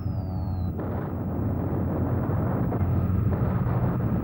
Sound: exploding

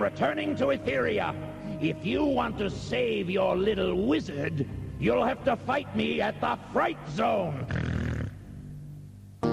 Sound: snort

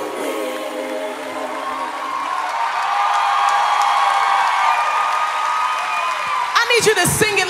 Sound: cheering

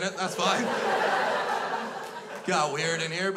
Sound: crowd laughs

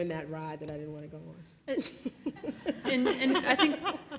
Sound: laughs

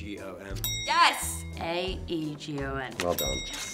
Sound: bell dings

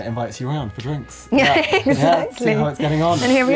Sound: laughs

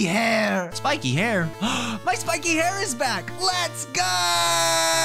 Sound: gasp

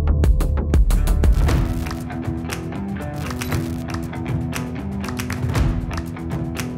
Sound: upbeat rock music; static crackling

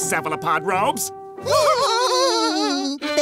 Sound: laughing

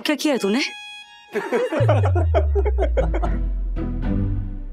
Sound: laughing

